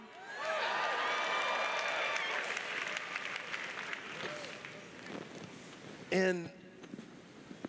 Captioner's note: cheers